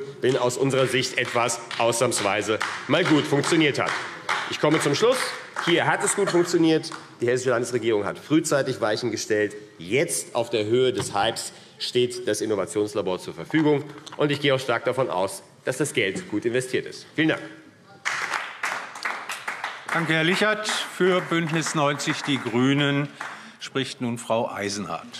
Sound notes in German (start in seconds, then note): 18.0 Beifall AfD